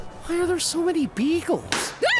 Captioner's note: whispering; balloon pops